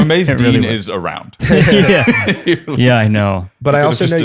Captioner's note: laughter; laughs